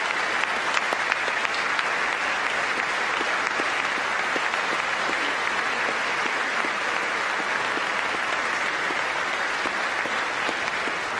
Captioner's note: applause